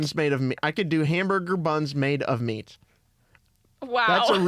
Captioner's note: laughs